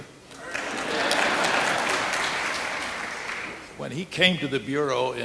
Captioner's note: audience applauding